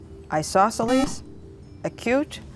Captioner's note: buzzer